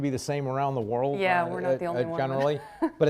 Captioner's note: laughs